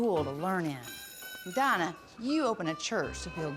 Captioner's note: school bell rings